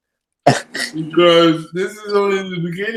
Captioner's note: chuckles